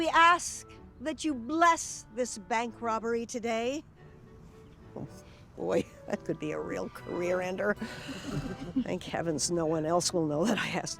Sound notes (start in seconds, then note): 7.9 group chuckling